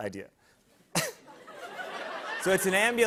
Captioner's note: laughter